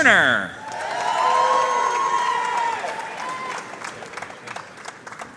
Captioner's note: audience cheering and applauding